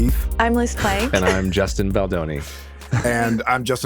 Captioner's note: chuckles